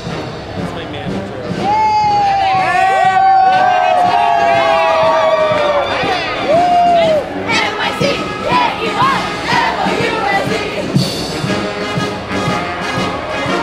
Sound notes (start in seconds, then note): 1.4 crowd cheers